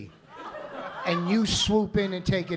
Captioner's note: laughter